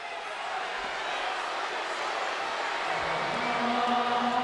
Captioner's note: crowd cheers; gregorian chant music